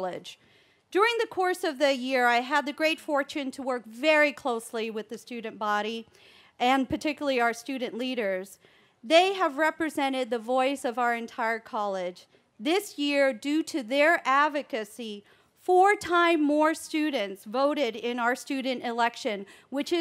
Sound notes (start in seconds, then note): none